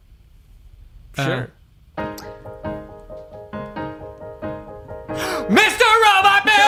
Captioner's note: screaming